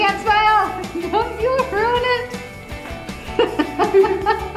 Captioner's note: giggles; laughs